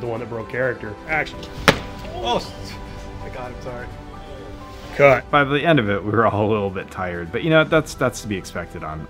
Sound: whack

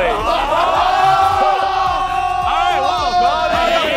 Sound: contestants cheering

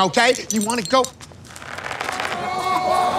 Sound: underwear stretching; crowd yelling

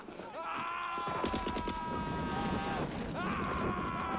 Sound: screaming continues

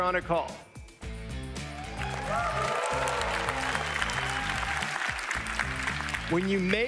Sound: crowd cheering; crowd applauding

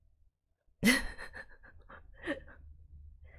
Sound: laughs

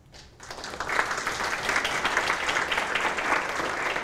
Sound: applause

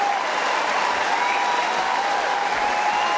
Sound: cheering & Applause

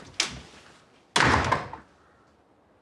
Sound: door slams

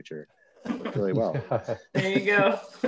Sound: laughs

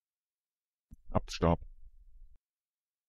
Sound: fast Pronunciation

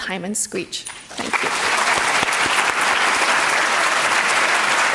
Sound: audience clapping

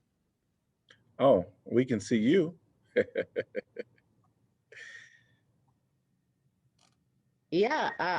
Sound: laughter

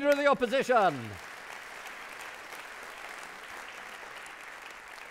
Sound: audience clapping

